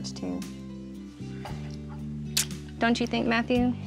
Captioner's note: smooch